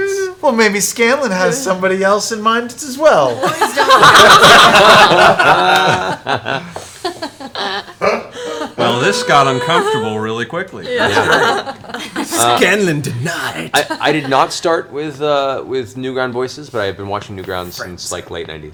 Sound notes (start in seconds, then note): 3.3 all laugh; 11.2 laughs